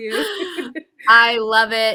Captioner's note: laughs